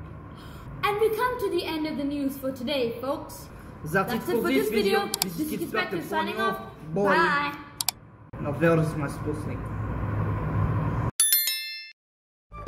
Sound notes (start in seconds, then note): 11.2 ding